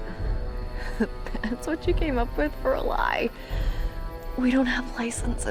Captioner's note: chuckles